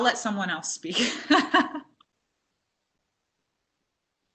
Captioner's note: laughs